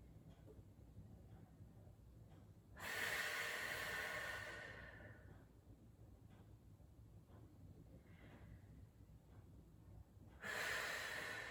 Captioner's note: breathing